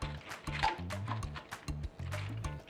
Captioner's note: hook and loop noise